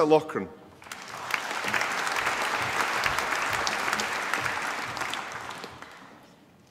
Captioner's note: applause